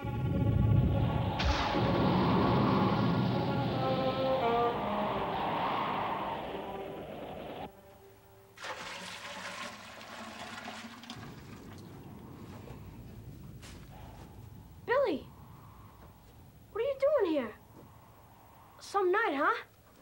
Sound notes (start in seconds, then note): 0.0 thunder clapping; 0.0 wind howling